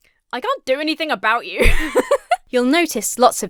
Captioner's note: laughs